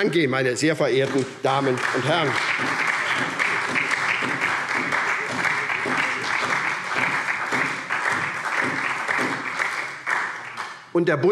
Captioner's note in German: Beifall SPD